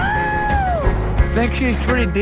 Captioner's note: man screaming